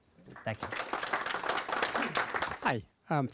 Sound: audience applauds

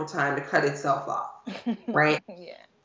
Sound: laughing

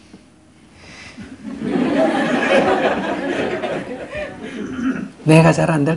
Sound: audience Laughter

